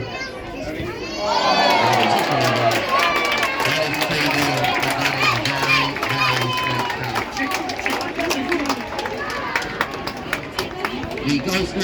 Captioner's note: applause